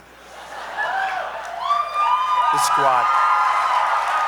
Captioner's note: laughter and applause